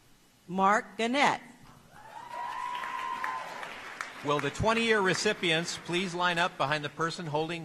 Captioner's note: applause